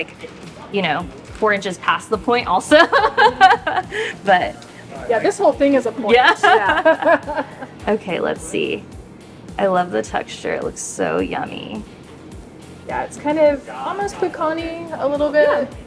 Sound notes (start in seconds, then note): 5.8 laughing